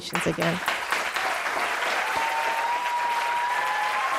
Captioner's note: applause